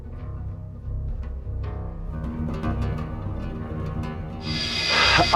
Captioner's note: engine revving